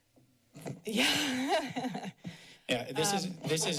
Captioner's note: laughs